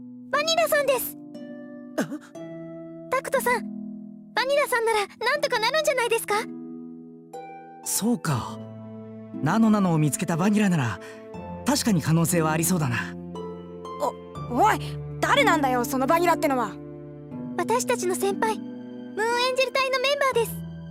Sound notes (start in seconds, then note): 2.0 confused gasp